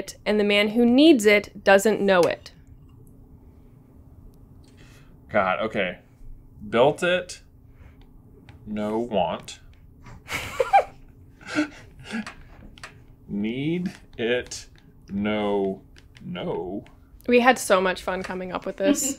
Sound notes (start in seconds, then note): 10.2 giggles